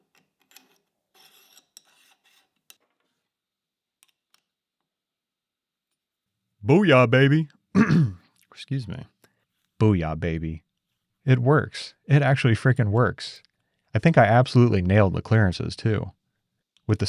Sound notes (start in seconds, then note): 7.7 clears throat